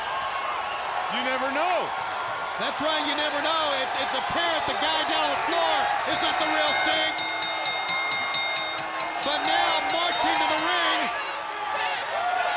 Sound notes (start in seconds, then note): 6.0 bell rings